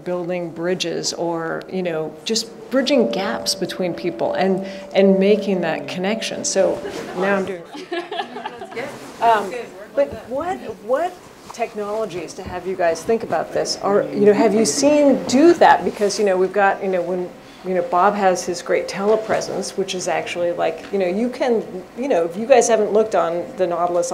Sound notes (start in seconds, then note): 6.8 chuckles